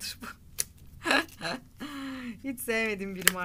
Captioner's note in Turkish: Gülüyor